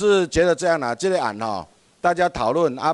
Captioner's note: minnan dialect